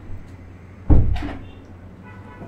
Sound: door closes!

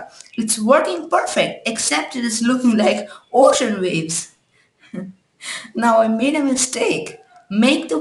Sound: giggles

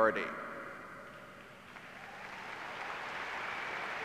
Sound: clapping

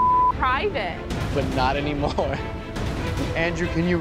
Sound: laughs

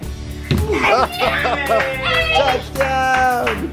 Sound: cheering

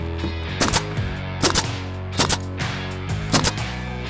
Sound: nail gun popping

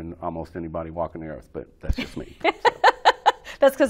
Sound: laughing

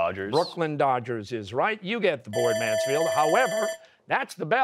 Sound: bell ringing

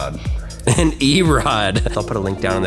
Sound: chuckles

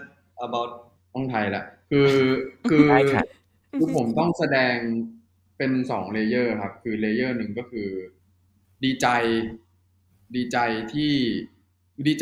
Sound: Jimmy switching to answer in Thai

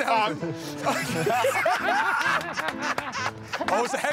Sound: laughter

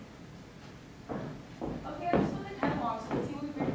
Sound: footsteps thumping

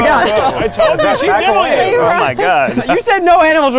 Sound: laughing

